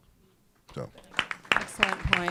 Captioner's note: applause